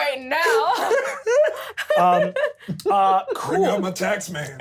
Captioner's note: laughs